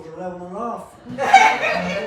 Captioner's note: laughs